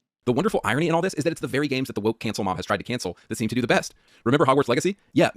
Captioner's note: none